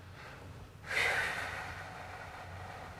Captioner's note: breathing